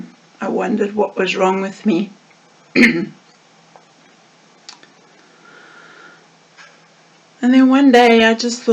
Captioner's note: clears throat